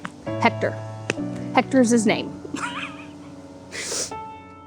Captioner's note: laughs